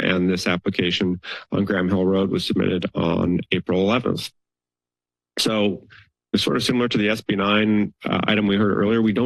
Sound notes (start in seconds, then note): 5.4 pause